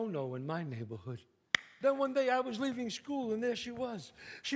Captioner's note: claps